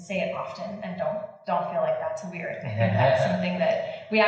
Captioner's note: laughing